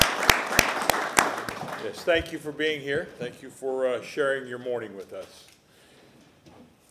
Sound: applause

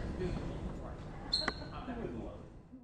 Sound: men chattering faintly

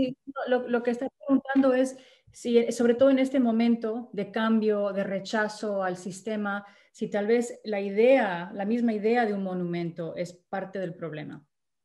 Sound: speaking spanish

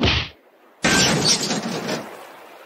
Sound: bonk

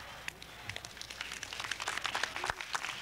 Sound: applause

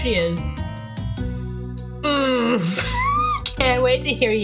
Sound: wheeze

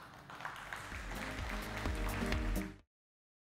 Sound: applause

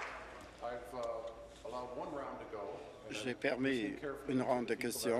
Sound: applause

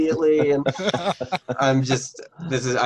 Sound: laughing

